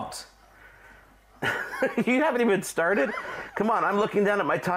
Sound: laughs

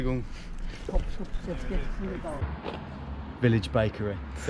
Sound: speaking foreign language

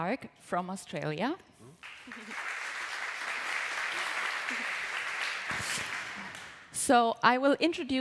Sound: applause

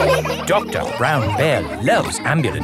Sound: all laughing

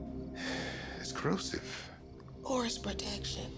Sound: sighs

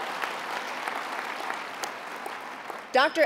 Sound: applause

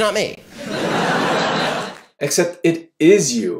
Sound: audience laughter

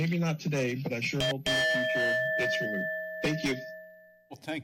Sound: bell rings

